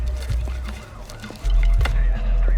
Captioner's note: police sirens